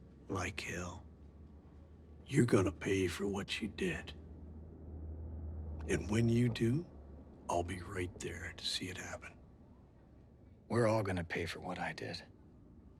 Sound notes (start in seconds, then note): none